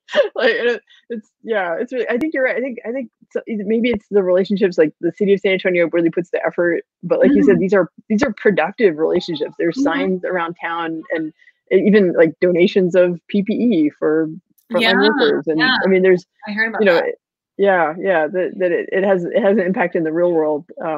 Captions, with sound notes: - Yeah, it's really, I think you're right. I think maybe it's the relationships like the city of San Antonio really puts the effort, but like he said these are productive relationships. There's signs around town and even like donations of PPE for (murmurs) - I mean, - I heard about that. - Yeah, that it has an impact in the real world.